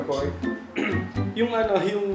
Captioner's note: clears throat for real